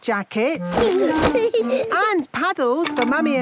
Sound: giggling

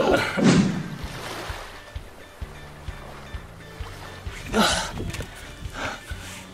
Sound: waves whooshing; upbeat music

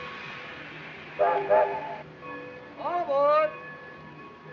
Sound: train whistle blows

